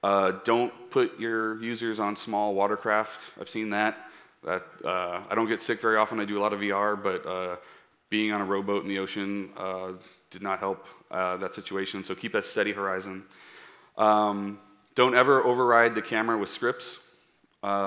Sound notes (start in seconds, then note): none